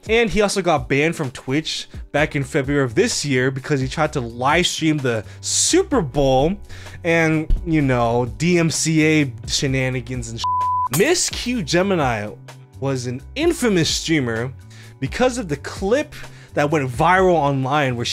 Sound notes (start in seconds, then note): 10.4 beep